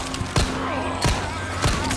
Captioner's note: bang